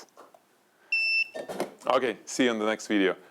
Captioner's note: light beeps